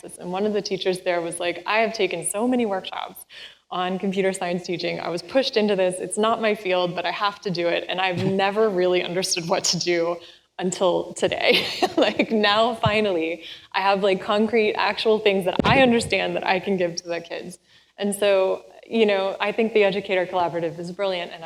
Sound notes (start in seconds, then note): 11.7 laughs